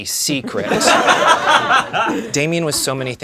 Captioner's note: laughing